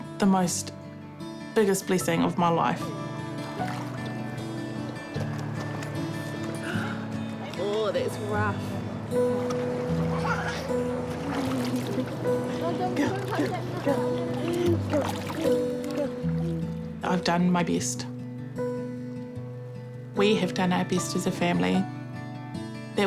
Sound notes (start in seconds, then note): 6.4 gasps; 10.1 giggles